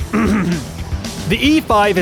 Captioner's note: clears Throat